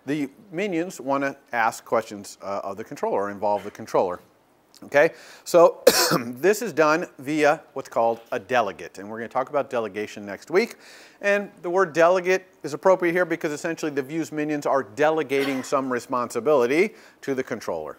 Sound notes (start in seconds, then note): 5.8 cough